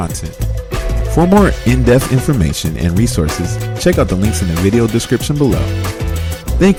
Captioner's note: voiceover